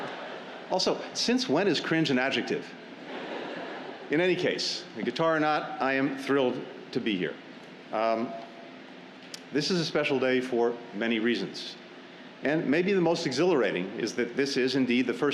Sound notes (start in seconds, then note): 3.0 laughter